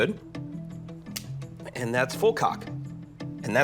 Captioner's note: click